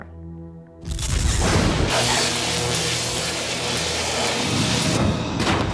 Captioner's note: buzzing